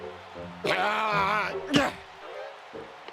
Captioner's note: groan